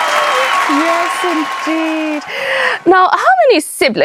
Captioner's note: audience applauding and cheering